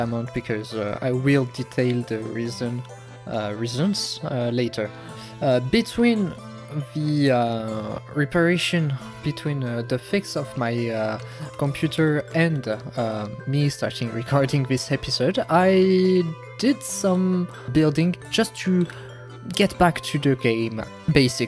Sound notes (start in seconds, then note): none